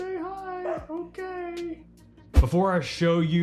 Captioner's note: dog barks